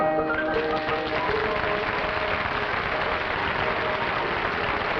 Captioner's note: applause